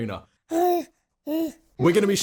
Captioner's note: baby babbling